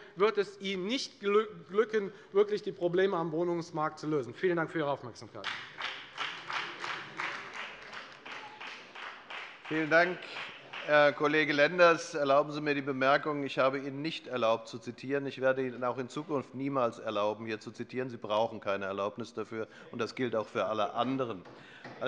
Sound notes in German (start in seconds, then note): 5.4 Beifall bei der FDP